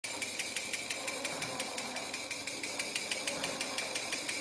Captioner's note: lathe wheel pattering